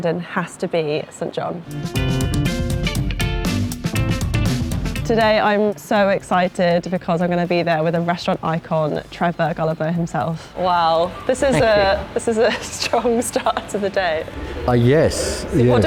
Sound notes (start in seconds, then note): 1.8 upbeat music; 11.2 laughing